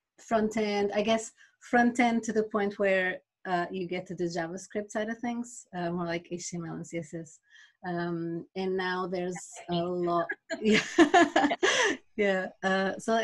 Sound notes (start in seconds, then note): 10.0 laughs